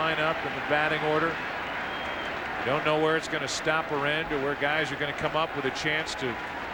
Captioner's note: cheers and applause